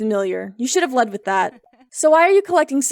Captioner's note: Fox Laughs